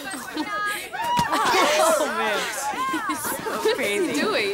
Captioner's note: girls giggling; crowd cheers